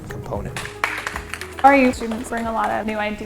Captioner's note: students clap